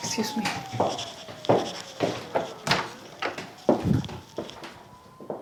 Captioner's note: distant sirens; footsteps